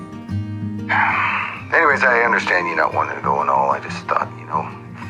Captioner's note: sighs